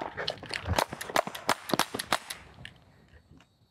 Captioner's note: gun clicks